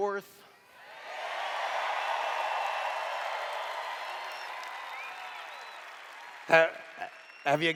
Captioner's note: cheers